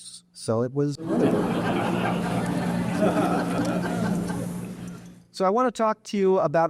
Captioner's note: audience laughing